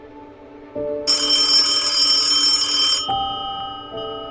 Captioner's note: phone ringing